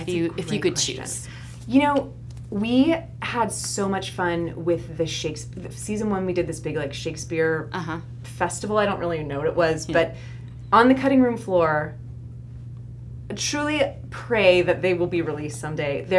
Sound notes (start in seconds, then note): none